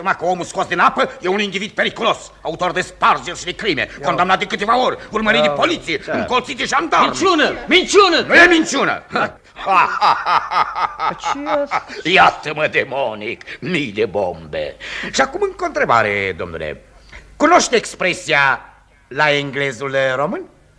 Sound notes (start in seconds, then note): 9.4 laughing malevolently